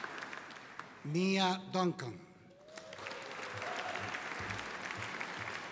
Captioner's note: audience applauding